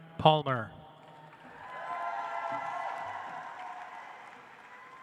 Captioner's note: audience applauds